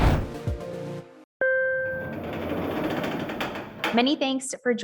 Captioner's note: elevator dings, doors slide